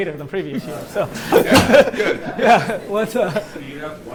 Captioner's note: laughter